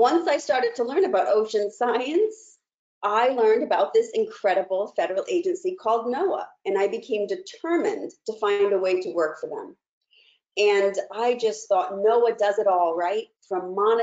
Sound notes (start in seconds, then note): none